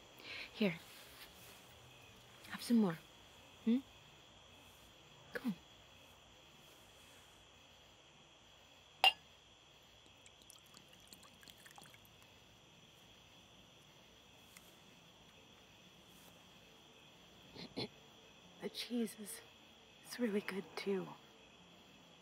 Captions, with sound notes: Here, have some more, hm? Come. (glass clinks) (wine sloshes) - The cheese, it's really good too.